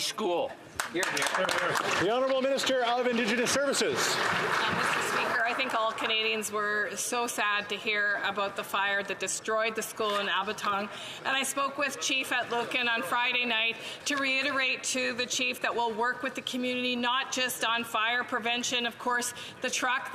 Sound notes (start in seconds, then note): 6.8 some Applause